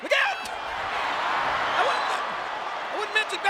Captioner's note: audience cheering